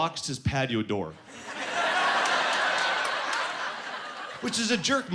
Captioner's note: laughing